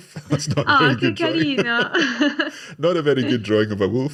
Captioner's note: laughs